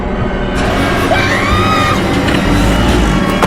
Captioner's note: Leah screams